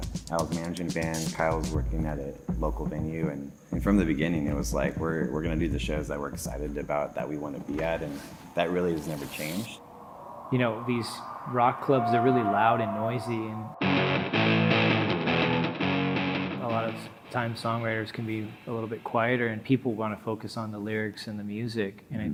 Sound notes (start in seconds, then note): 9.0 paper ripping; 13.8 heavy rock music